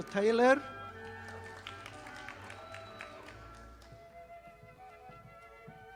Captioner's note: audience applauding